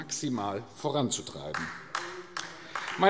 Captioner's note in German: Beifall AfD